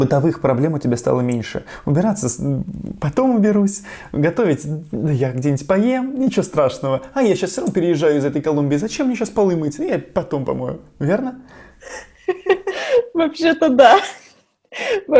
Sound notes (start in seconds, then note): 11.8 laughs